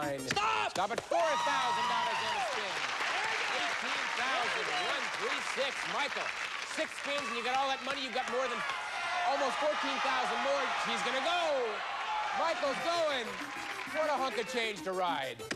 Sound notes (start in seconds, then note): 2.1 cheers and applause